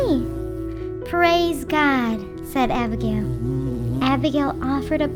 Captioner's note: bee buzzing